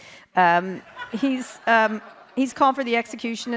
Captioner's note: audience laughs